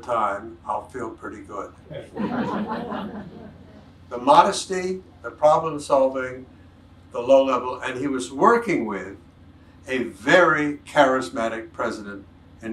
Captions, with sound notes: I'll feel pretty good." (audience laughs) The modesty, the problem solving, the low level. And he was working with a very charismatic president